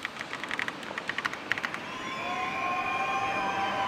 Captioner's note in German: Jubel